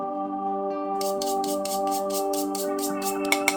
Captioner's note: brush brush brush